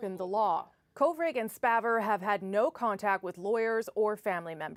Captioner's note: speaking chinese